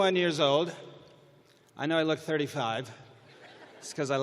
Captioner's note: chuckling